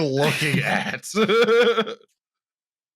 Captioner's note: laughter